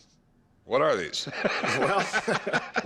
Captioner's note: laughter